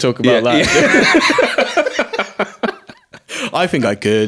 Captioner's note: both laughing